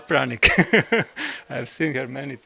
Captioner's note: laugh